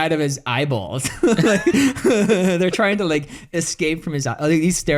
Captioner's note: laughs